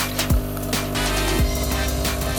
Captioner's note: muzzling of the coffee machine